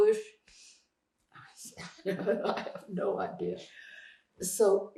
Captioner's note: laughing